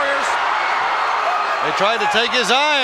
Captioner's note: crowd shout